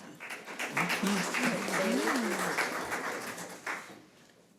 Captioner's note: audience applause